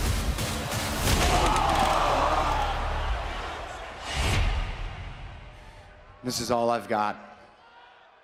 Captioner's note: crowd cheering